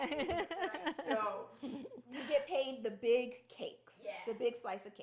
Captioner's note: laughing